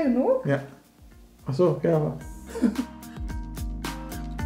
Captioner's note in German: lacht